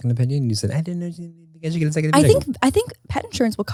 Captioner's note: faintly speaking